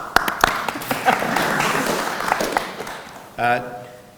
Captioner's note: audience applauds